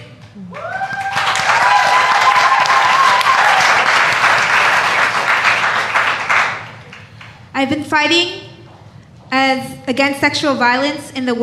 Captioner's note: speaking spanish; cheers and applause